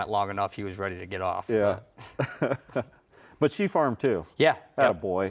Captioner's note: laughs